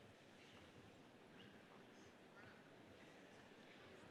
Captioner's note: none